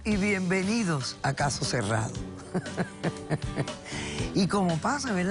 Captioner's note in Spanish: Risas